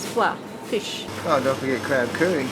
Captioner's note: in Thai